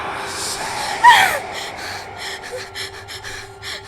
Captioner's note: screaming; gasps